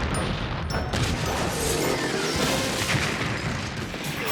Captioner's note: explosion rumbles; whimsical music; shed crashing; hard rock music